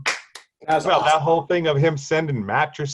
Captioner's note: clapping